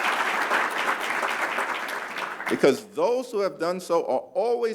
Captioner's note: applause